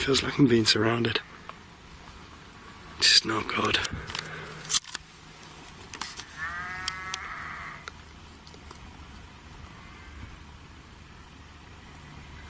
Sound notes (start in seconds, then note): 6.3 sheep bleating